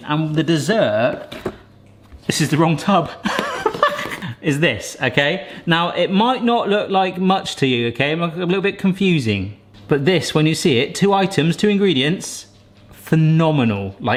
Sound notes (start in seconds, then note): 3.3 laughs